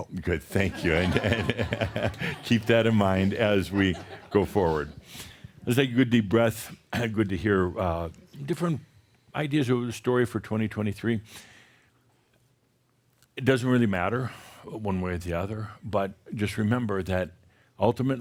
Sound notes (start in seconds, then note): 0.6 laughter